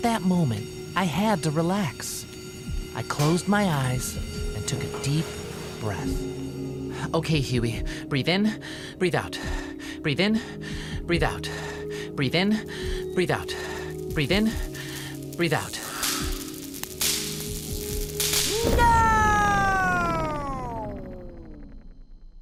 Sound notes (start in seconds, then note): 17.2 static crackling